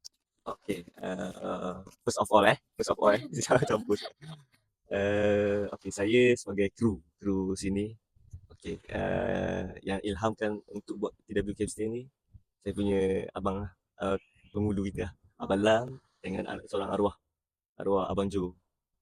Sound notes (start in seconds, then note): 3.0 laughs